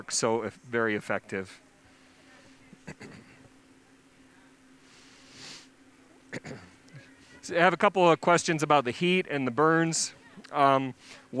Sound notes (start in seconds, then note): 1.5 clearing throat